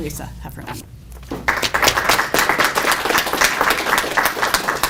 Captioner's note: audience applauds